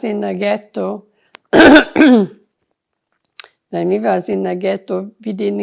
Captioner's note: coughing